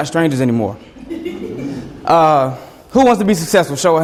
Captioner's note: students laugh